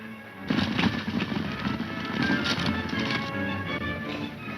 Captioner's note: speeding horses